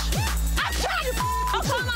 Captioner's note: beep